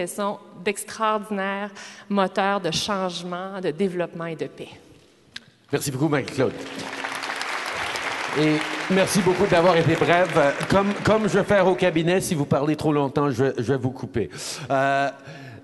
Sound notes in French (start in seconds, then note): 6.1 Applaudisements; 6.1 Applaudissements